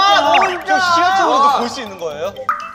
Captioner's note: the building owners complaining